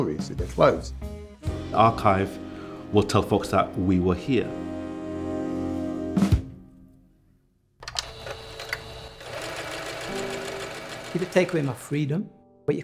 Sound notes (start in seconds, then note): 7.8 machine whirring